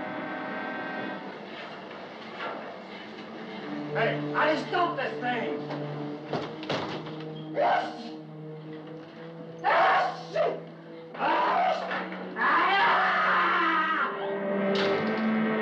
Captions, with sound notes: Hey, how do you stop this thing? [ Sneezing ] [ Screams ]